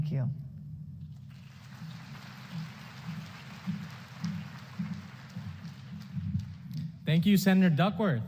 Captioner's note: applause